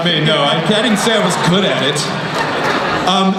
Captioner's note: voiceover